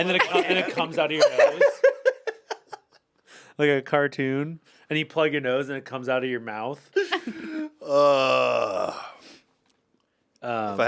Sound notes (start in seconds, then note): 1.5 Anthony laughs